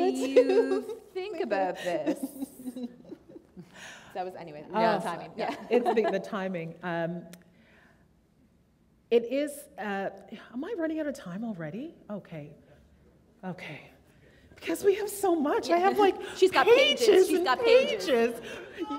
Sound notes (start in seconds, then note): 0.2 laughter; 3.9 laughter